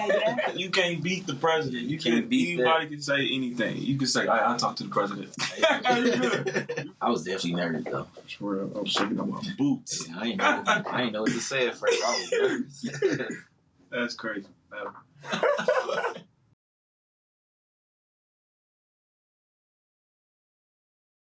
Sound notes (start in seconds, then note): 5.3 both laughing; 9.8 laughing; 15.2 both laughing